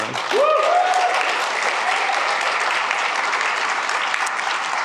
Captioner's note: applause